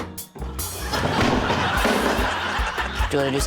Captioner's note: thud!